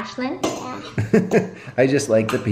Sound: laughing

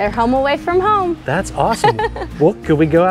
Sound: coach laughs

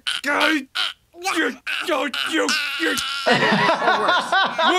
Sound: Bart choking; laughing

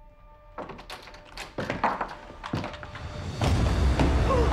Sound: tense music; door jiggles, opens; suspenseful music

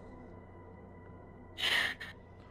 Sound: sigh

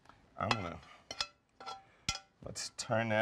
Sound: spoon scrapes pan

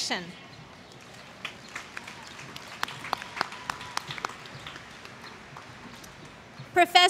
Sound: applause

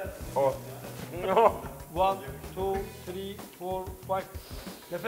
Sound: sniffs

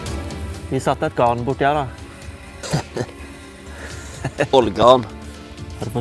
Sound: giggle

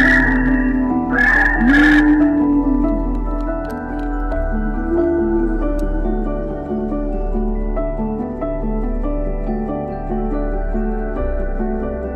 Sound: various dinosaurs sounds with jungle sounds

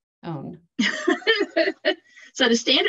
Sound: laughs

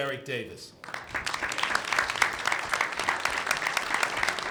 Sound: clapping

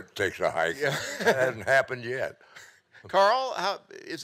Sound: laughing

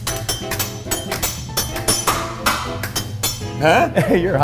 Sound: clanging continues

